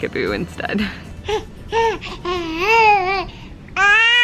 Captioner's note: baby cooing